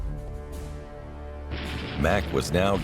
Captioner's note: machine gun cracking